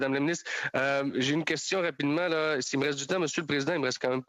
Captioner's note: speaking French